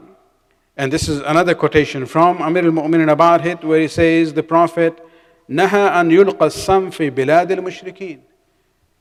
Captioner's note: arabic